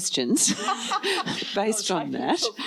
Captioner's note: laughs